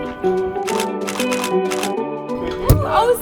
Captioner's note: shutter clicks